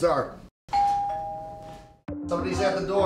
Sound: doorbell

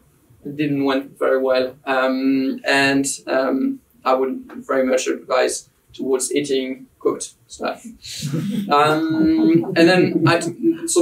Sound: giggles in the audience

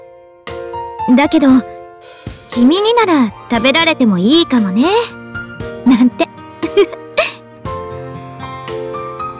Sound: chuckle

